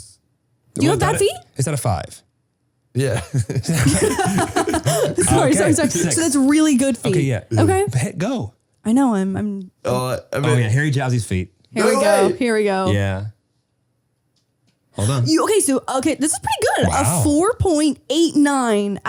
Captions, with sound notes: - Six. - Is that a five? - Yeah. (all laughing) - Sorry. Sorry. So it's really good for you. - Okay. Yeah. Go. - I know I'm... - Okay Harry Jowsey's feet. - Here we go. Here we go. - No way. - Yeah. - Okay, this are pretty good, a 4.89 out of five.